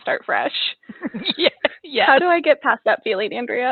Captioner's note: laughing